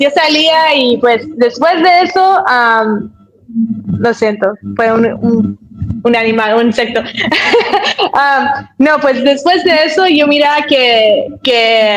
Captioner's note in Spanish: risas